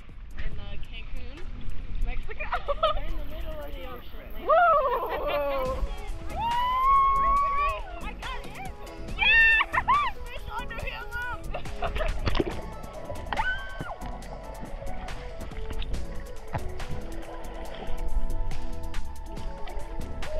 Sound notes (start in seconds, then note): 6.3 cheering